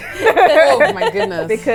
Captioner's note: laughs